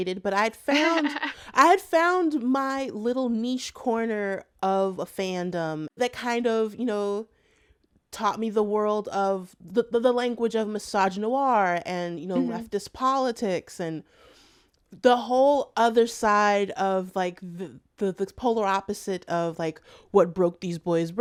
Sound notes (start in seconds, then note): 0.6 laughter